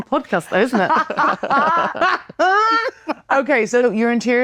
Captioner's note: laughing